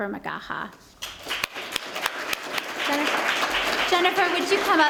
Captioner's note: applause